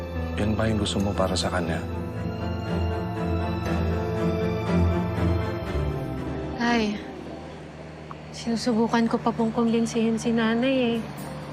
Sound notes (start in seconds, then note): 3.3 life support machine whirring; 3.3 unsettling music continues